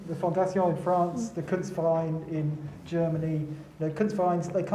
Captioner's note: speaking foreign language